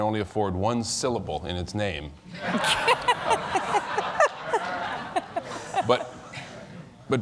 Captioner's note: laughter